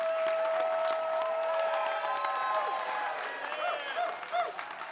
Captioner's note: audience applauding